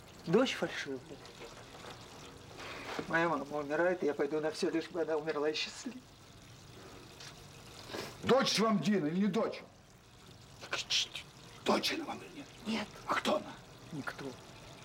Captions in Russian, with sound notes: Дочь фальшивая! Моя мама умирает, и я пойду на всё, лишь бы она умерла счастливой! Дочь Вам Дина, или не дочь?! Не кричите! [Шепотом]: Дочь она Вам, или нет? - Нет! - А кто она? - Никто!